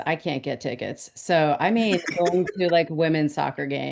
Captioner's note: man laughs